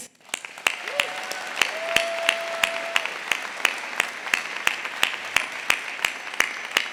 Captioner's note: audience applauding; audience cheering